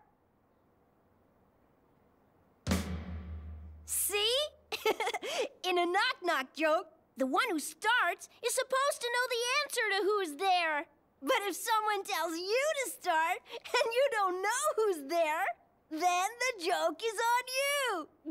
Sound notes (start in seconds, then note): 0.1 complete silence; 4.7 giggles